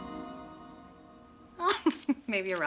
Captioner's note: chuckles